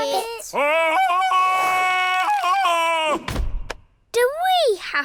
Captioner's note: bellows like tarzan